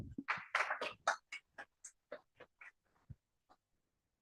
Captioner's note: applause